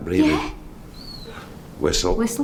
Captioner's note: whistling sound